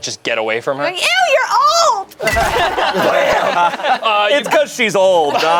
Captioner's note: group laughs